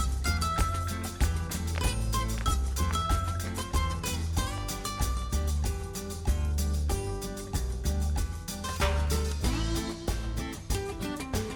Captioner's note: flamenco guitar music; shoes tapping on the road